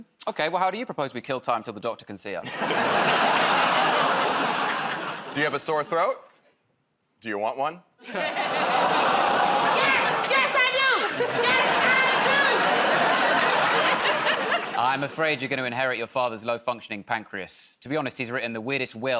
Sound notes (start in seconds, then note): 2.4 laughter; 8.1 audience "Oh"s